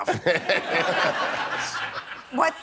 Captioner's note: laughing